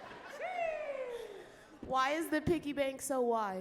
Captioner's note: audience laughs